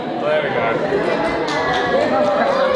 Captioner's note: people cheer; people cheering